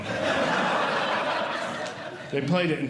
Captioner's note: audience Laughing